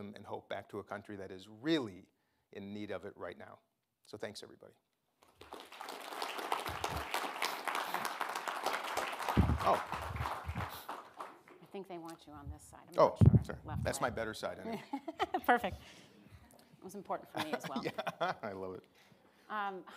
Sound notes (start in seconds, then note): 5.2 audience applauding; 15.5 laughs; 18.5 laughs